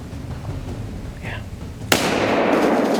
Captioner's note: whispering